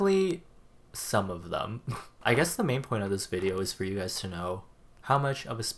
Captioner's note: laughs